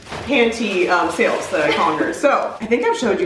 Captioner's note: giggles